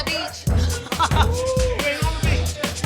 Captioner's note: laughs